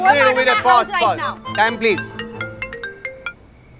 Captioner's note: Phone ringing